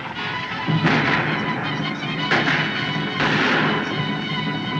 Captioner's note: gunshots Continue